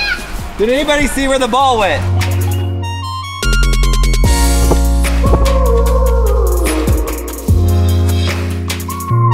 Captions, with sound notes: We've set it at 175. Let's see if we can get it on the green. (club pops)